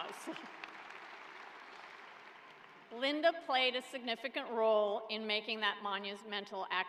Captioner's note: applause